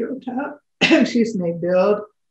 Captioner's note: coughs